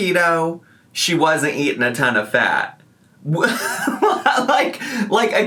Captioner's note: laughs